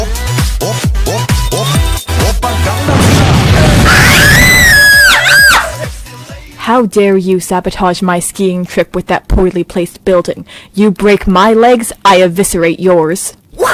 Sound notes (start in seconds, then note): 2.8 explosion; 3.6 screaming